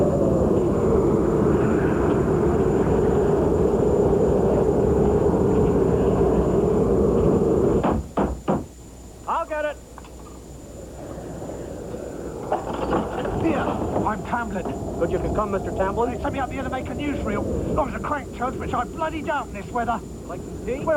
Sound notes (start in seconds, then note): 7.8 pounding on door